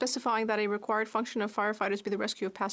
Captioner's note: speaking French